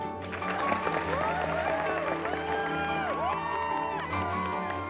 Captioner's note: applause; cheering